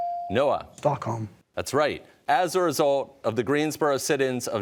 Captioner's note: none